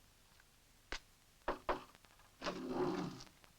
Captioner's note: knock on door; door scrapes